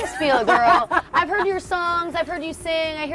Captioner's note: laughs